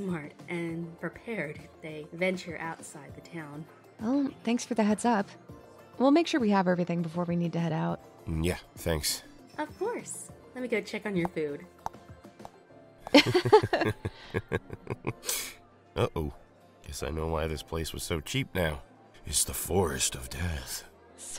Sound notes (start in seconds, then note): 13.1 laughs; 13.1 chuckles